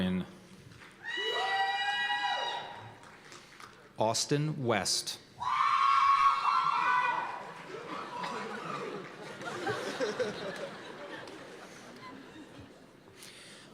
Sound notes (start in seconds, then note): 1.0 cheers and applause; 5.4 cheers and applause; 7.6 laughter